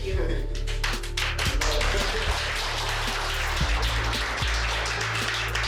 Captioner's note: applause